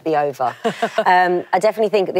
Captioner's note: laughs